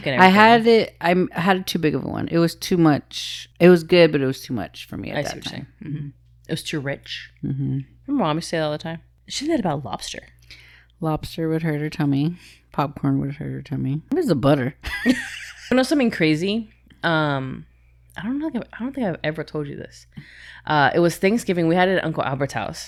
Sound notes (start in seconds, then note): 15.1 laughs